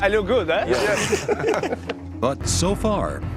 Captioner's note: Risadas